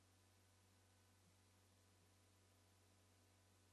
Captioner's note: none